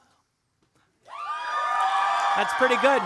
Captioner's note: audience cheering; audience applauding